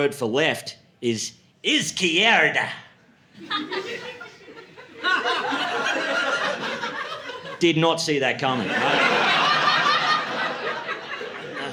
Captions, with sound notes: for "left" is "izquierda." [LAUGHTER] Did not see that coming, right? [LAUGHTER]